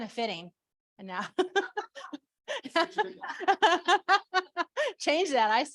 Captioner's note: laughter